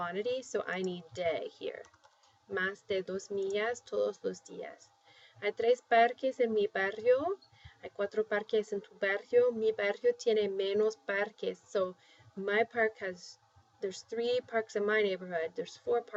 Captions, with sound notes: So I need [spanish] here. [speaking spanish] [speaking spanish] So there's three parks in my neighborhood. There's four parks in yours.